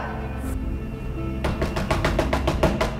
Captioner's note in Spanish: Golpes en la puerta